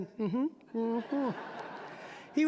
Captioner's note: audience laughing